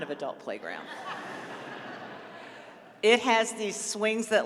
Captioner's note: laughter